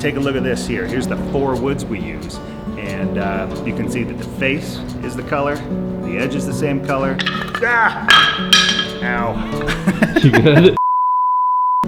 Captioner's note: drops wood and yells; laughs